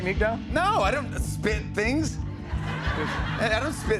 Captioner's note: laughter